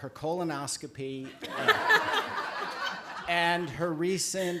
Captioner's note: laughter